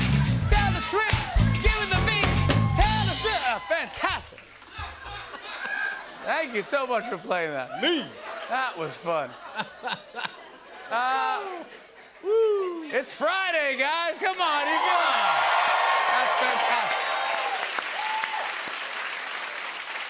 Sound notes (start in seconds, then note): 14.2 cheers and applause